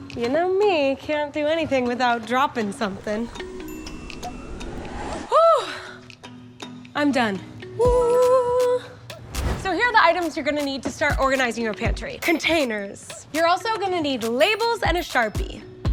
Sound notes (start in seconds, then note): 3.0 bell chimes